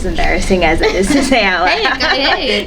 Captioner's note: laughs